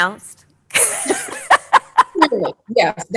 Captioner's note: laughing